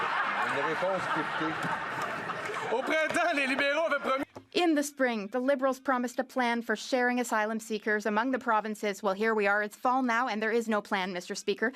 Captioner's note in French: rires